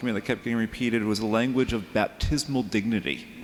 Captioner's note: none